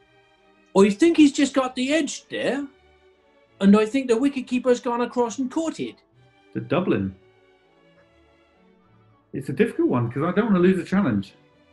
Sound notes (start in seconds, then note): 0.2 westcountry accent